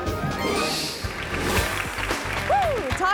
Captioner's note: audience applauding